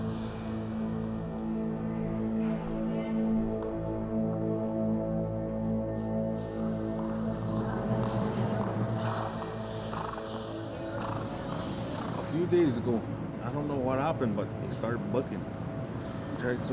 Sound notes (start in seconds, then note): 9.8 horse chuffing